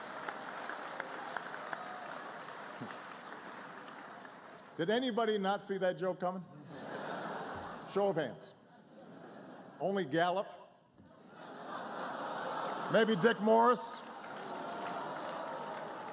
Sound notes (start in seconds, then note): 0.1 laughter; 15.9 laughter, applause